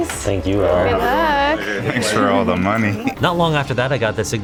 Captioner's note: chuckles